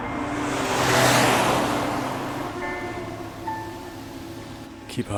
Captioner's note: engine revving